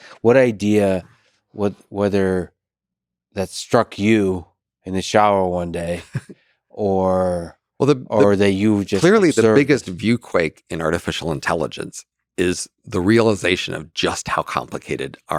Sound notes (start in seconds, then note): 5.8 chuckles